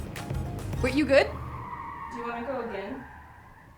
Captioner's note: wheels peel out on pavement